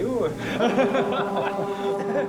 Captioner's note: laughs